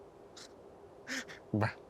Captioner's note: Ayman chuckles